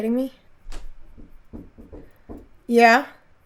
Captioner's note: knocking